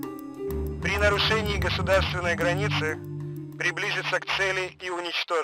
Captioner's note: Soviet speaking in Russian